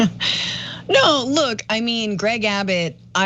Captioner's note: laugh